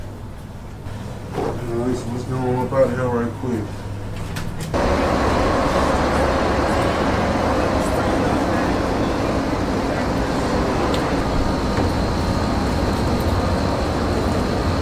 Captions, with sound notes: What's going on? We about to head right quick. (cars passing by) (couple chatting)